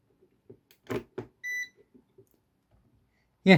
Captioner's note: plugging in & beeping sound